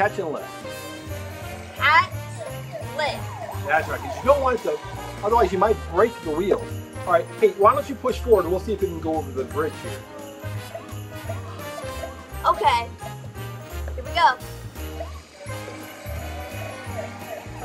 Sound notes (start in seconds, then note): 11.2 toy siren blaring